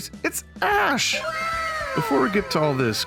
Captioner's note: voiceover